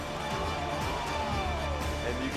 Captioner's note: people cheering